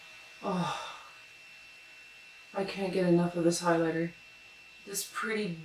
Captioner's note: sigh